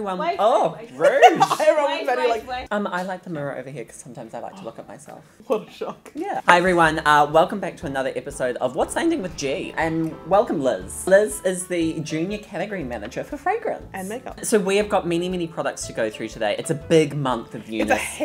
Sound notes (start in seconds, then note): 1.0 laughs